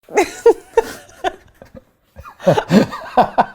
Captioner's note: laughing